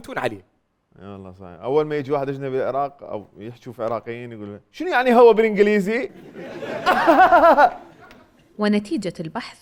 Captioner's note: fake laughing